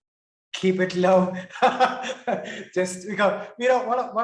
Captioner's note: laughs